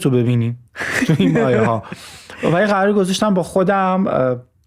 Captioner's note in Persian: خنده